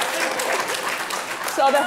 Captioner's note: applauding